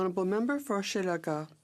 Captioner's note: speaking French